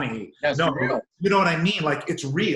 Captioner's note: murmurs